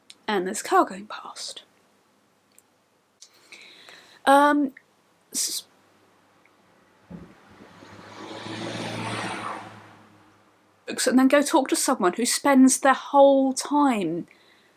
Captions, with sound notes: and there's car going past um, so *car noise* books and then go talk to someone who spends their whole time